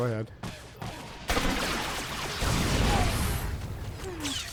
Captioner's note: gunshots